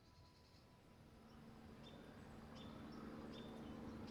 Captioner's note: birds chirping; engine rumbling